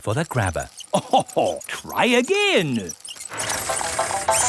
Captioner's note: chuckles